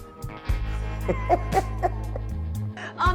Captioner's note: laughs